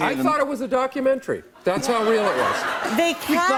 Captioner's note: laughter